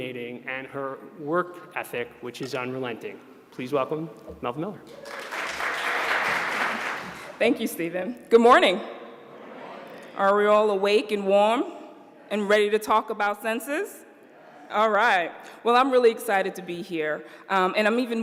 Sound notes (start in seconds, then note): 7.5 applause